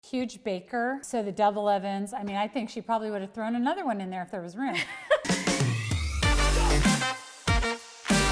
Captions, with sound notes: - Huge baker, so the double ovens, I mean, I think she probably would've thrown another one in there if there was room. - (laughs) (Upbeat Music)